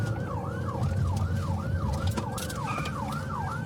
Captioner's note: siren wailing